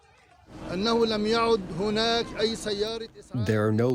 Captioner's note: through translator